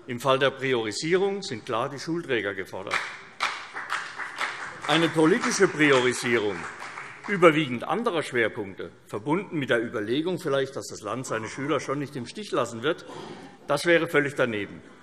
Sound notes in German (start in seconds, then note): 2.9 Beifall CDU und vereinzelt BÜNDNIS 90/DIE GRÜNEN